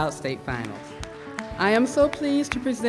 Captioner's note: applause